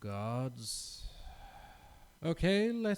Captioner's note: sigh